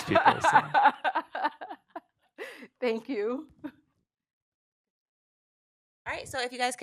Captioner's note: laughs